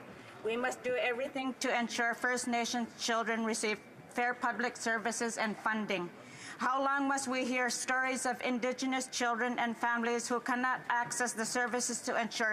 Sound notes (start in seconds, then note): none